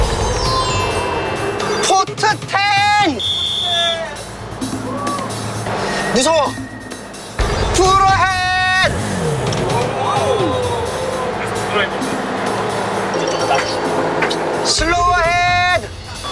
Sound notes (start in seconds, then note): 8.9 sudden acceleration